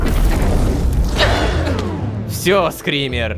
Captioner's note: screamer